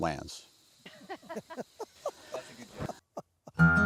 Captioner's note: laughter